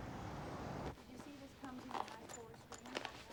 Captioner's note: indistinct chatter